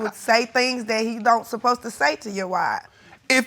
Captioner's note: none